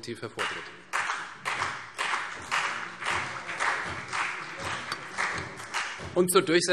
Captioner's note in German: Beifall CDU und BÜNDNIS 90/DIE GRÜNEN